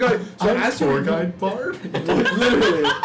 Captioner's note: laughter